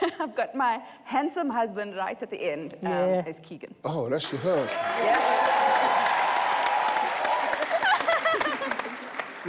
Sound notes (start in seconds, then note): 4.6 audience cheers